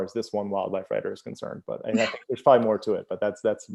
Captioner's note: laughs